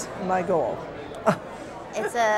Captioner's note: chuckling